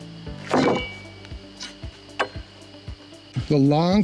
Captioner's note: clanking thuds